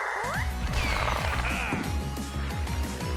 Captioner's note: chuckles